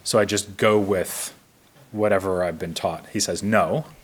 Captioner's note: none